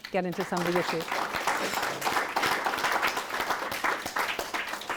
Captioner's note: audience applauding